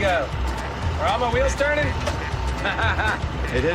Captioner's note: laughs